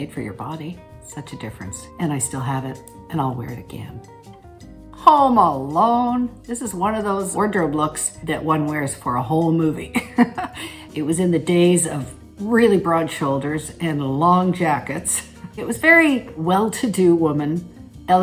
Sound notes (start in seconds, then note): 9.9 Catherine laughs